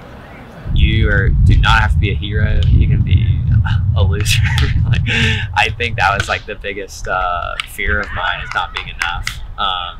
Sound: chuckle

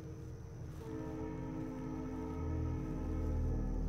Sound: distant train horn

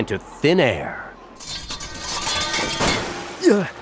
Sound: clattering

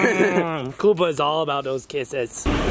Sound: laughs

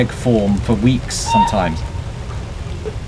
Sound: honking noise

